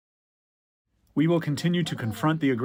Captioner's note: through translator